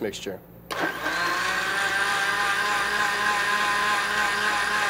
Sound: blender grinding

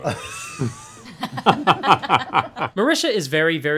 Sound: laughter

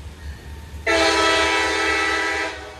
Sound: train horn blaring continues getting louder

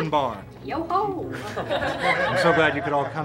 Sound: laughing

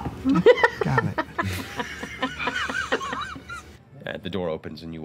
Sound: laughter

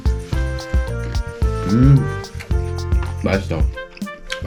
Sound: automatic dolphin sound

